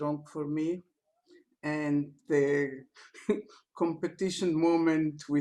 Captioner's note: laughter